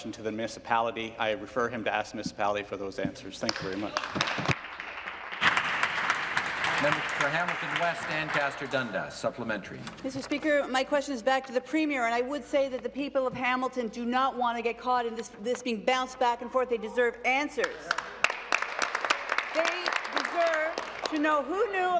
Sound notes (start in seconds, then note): 8.2 applause